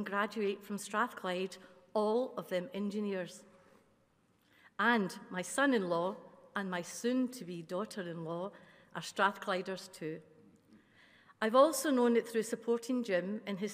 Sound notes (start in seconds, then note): none